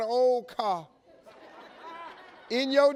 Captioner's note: audience laughs